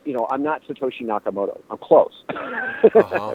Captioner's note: laughter